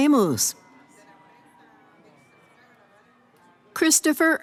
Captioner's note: cheering